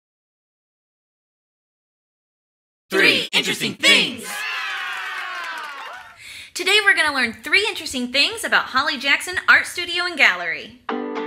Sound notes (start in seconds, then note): 2.9 crowd; 4.3 claps